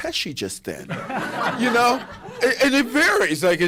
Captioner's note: laughter